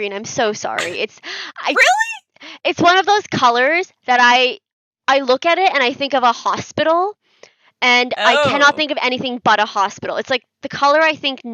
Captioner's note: makes disgruntled noises